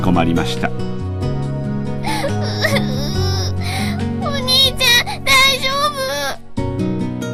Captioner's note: sobbing